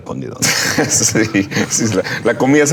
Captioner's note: laughing